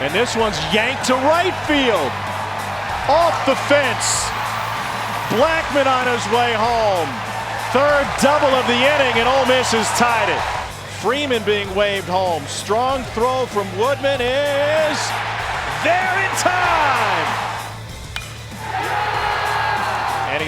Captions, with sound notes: And this one's yanked to right field, off the fence. Blackman on his way home. Third double of the inning and Ole Miss has tied it. Freeman being waved home, strong throw from Woodman and it is down and tied. (crowd cheers) (team cheers)